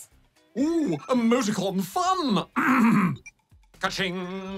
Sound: clears throat

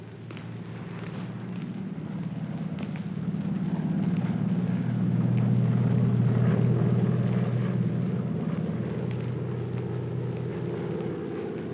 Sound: aircraft rumbles overhead

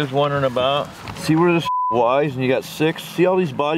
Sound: beep

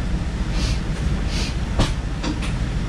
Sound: snif snif

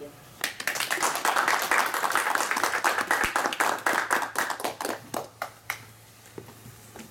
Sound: clapping

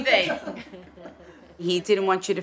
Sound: laughter

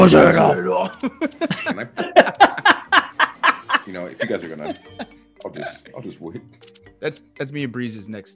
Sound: laugh

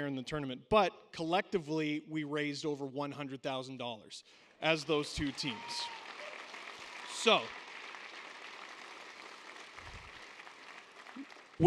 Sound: cheering

